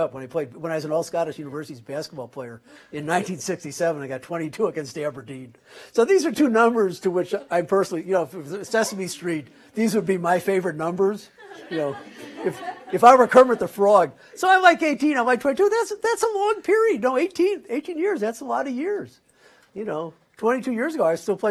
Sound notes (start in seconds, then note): 11.3 laughter